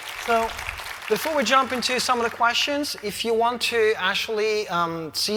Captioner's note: applause